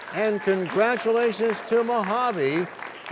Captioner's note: applause